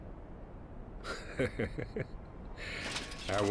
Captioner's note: laughing